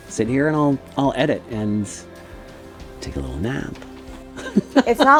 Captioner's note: laughs